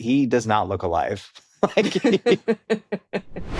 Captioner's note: both laugh